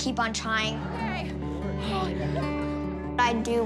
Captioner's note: gasps